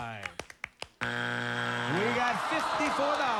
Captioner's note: buzzer